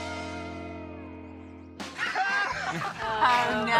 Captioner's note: all laughing